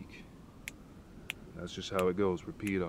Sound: snap, snap

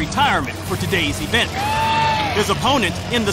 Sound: cheering

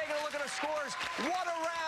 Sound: cheers and applause

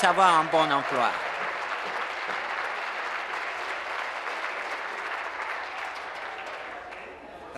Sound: applause

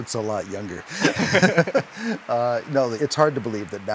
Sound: both laugh

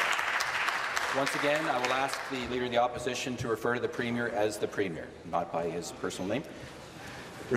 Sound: applause

